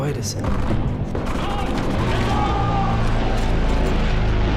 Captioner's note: muffled gunfire, shouting